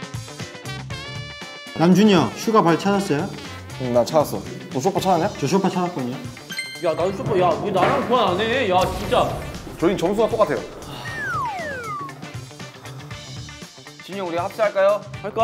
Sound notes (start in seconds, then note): 10.8 deep sigh